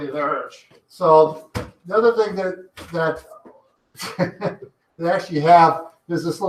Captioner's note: chuckles